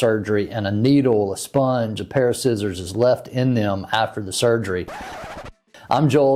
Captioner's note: record scratch